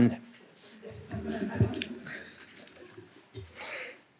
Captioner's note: laughter